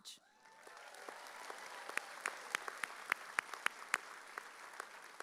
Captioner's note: audience cheering